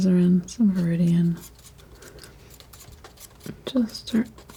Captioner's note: scratching